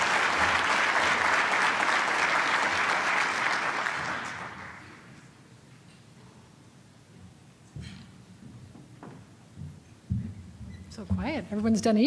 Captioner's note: applause